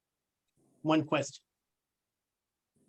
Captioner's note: pause